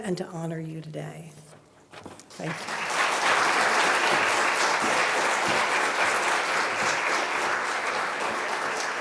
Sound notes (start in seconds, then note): 2.2 applause